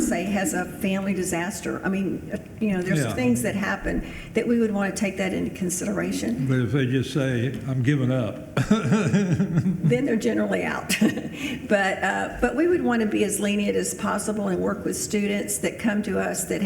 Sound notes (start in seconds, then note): 8.6 laughs